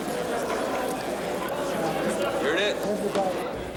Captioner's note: crowd Noise